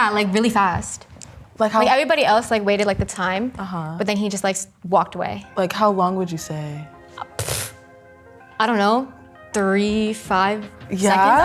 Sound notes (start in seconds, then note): 7.3 scoffing